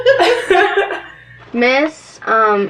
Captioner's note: both laughing